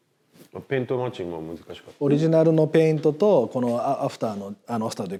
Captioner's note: men speaking in Japanese